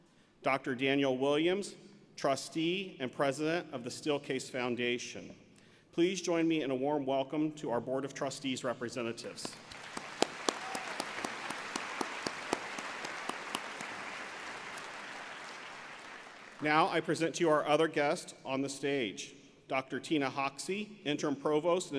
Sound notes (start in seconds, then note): 9.4 applause